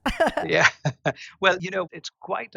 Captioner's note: laugh